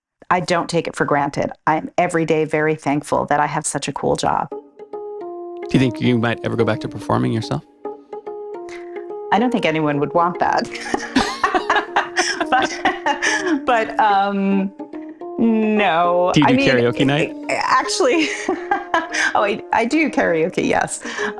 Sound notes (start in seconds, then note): 10.6 both laughing; 17.8 laughs